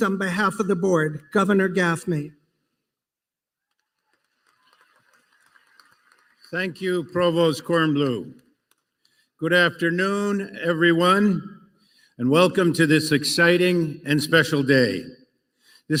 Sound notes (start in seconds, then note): 3.6 applause